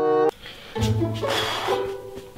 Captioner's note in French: Soupir